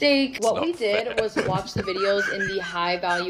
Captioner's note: laughing